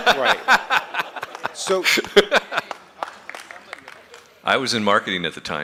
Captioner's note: laughter